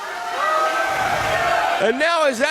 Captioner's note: audience cheering